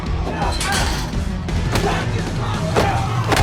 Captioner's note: dramatic melodic music; blows thudding; fighters grunting